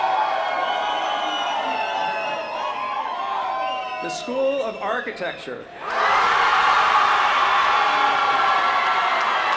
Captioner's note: cheers & applause